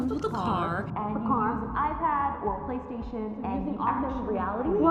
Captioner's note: voice distorts